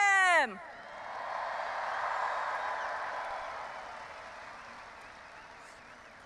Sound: audience applauding and cheering

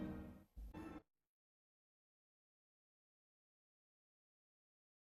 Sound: silence

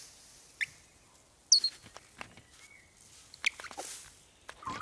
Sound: curious chirping

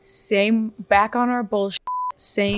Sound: beep

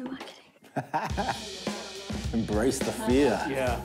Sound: chuckles; upbeat music

